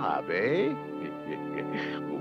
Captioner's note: chuckles